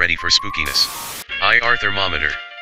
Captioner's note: white noise hisses